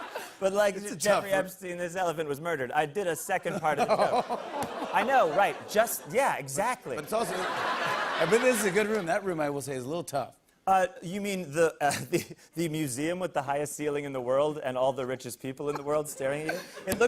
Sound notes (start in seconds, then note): 4.2 audience ohs